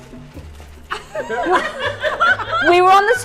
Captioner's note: judges laughing